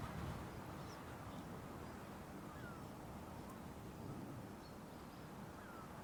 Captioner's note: bird sounds